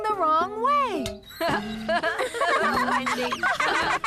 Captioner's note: laughing